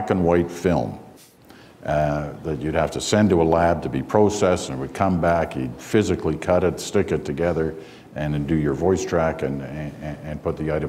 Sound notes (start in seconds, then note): none